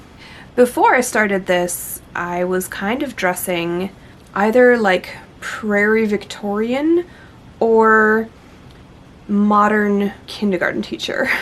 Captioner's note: laughs